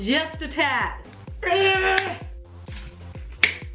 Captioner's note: grunting